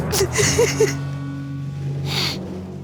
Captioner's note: sobbing